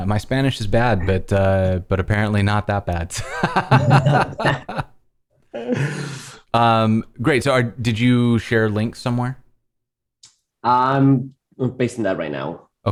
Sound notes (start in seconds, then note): 3.1 laughter